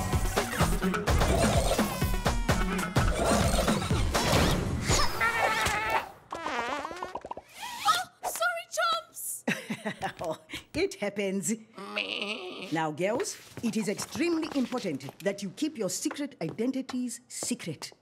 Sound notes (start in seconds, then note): 4.5 bleats; 6.3 farts; 11.8 laughing; 11.8 bleats